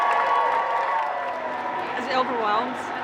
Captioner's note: crowd cheering